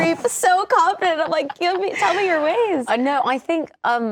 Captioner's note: laughing